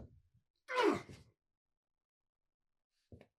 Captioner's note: Doc groaning